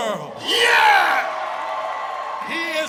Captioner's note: audience applause